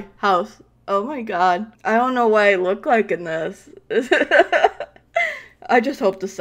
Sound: laughs

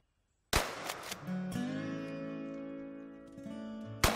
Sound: gunshots

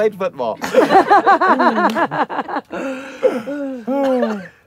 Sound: scouts laughing

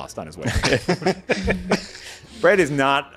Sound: laughing

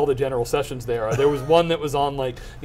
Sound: laughing

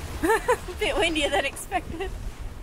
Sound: laughs

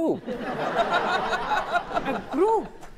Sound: audience laughs

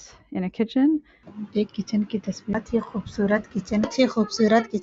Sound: speaking hindi

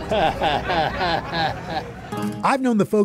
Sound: chuckles

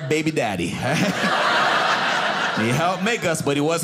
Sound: audience laughing

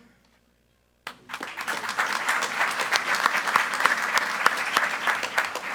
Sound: group applauding

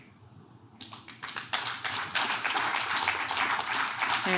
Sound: clapping

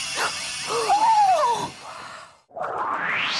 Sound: gasp!

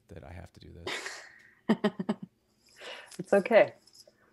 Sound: laughs

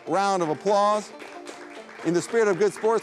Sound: audience applauding

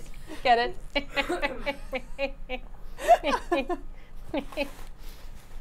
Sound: laugh

